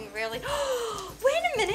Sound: gasp

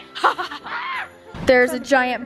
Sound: laughs triumphantly

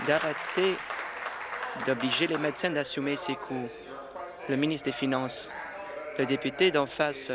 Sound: applause

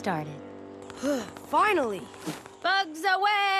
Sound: sighs

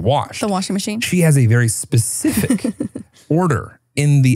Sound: chuckles

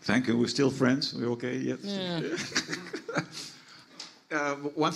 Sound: laughs

